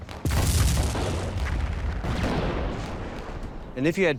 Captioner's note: artillery exploding